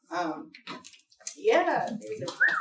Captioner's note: snaps and applause